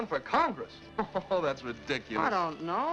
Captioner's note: laughs